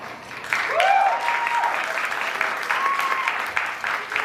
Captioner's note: applause